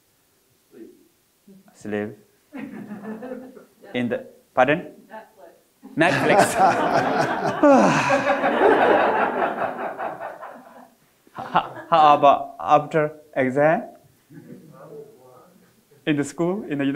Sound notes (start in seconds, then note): 2.9 audience laughing; 6.0 all laughing